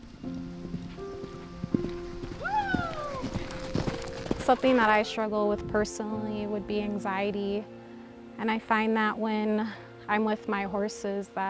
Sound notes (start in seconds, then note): 0.0 horse galloping; 2.4 cheers